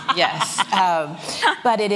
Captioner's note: laughs